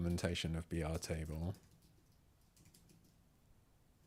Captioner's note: silence